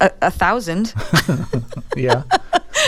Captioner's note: laughter